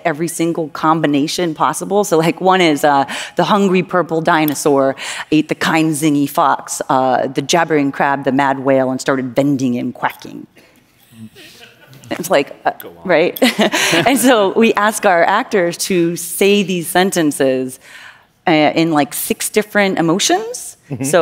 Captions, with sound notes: every single combination possible. So like one is, "the hungry purple dinosaur ate the kind zingy fox, the jabbering crab, the mad whale, and started bending and quacking". [LAUGHTER] It's like-- right? And so we ask our actors to say these sentences in, like, six different emotions.